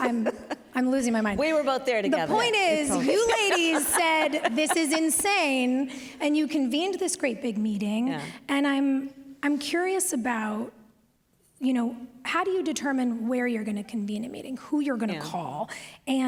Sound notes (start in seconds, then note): 0.0 laughter; 2.8 laughs